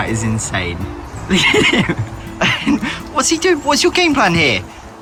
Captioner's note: laughs nervously